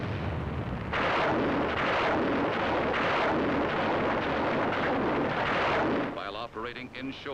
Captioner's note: sounds of explosions